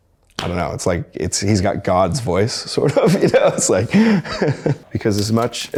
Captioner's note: laughs